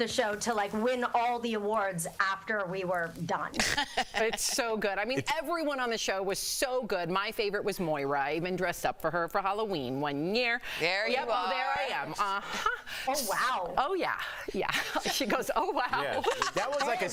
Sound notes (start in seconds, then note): 3.5 laughter